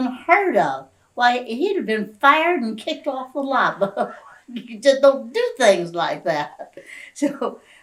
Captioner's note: laughs